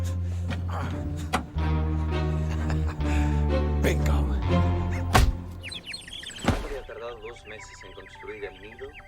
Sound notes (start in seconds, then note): 1.1 clicks; 1.8 laughs; 3.8 birds chirping; 6.3 man speaking Spanish on TV